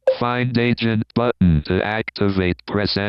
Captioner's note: automated Voice